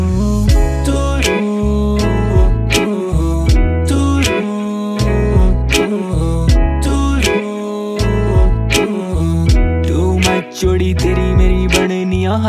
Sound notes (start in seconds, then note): 0.0 humming